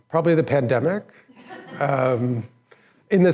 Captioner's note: laughter